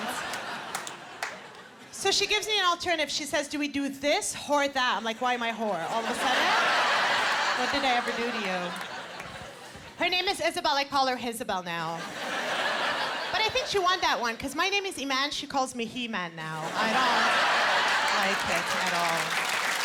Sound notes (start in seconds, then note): 5.8 laughter; 16.6 laughter